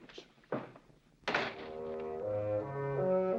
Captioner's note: door closing